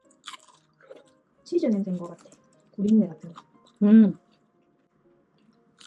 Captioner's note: agreeing noises